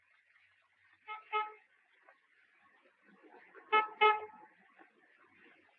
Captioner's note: horn honking